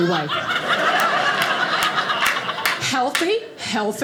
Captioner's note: audience laughing